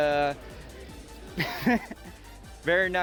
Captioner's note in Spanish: Risas